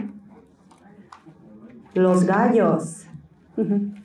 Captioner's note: Spanish